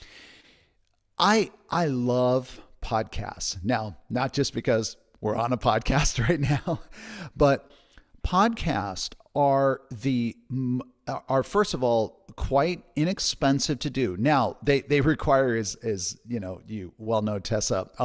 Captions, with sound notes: I love podcasts. Now, not just because we're on a podcast right now. (laughs) But podcasts are first of all, quite inexpensive to do. Now, they require as you well know, Tessa,